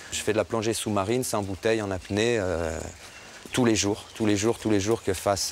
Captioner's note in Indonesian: none